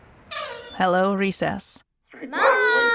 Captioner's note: squeak; barking